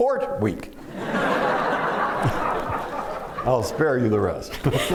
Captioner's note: laughter